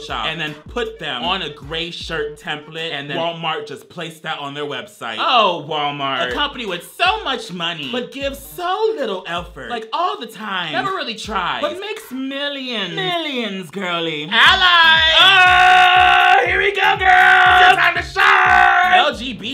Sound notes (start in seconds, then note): 14.3 yells